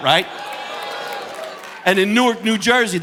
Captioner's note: audience cheering